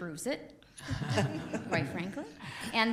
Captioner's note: laughter